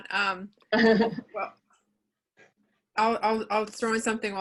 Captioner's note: chuckles